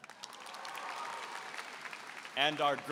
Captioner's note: applause